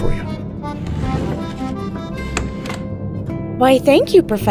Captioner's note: chair scraping on wood